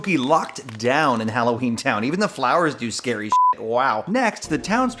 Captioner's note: beep